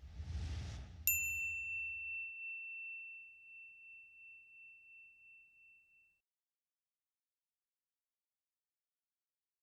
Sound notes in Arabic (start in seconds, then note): 1.0 يدق الجرس